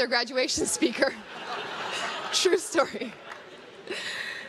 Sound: crowd laughs

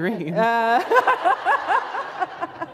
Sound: laughter

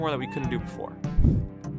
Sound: neko meow :3

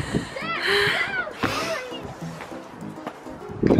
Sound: yelling; lighthearted game music

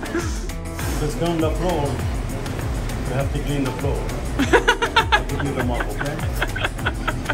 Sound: laughs

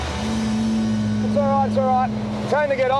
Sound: jet ski engine roars

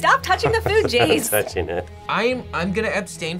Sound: laughs

